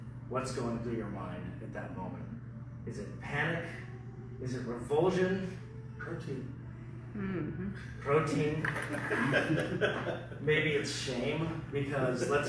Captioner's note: laughter